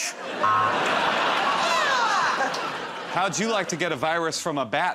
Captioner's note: laughter